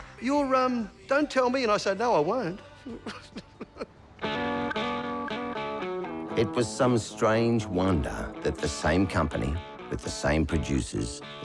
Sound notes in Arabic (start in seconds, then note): 0.2 يصفق بيديه; 5.6 يضحك